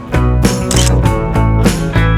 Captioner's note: photo click